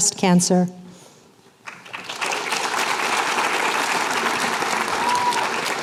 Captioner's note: applause